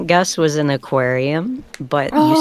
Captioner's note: groans